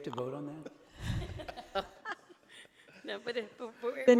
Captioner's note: laughing